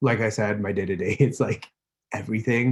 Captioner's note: laughs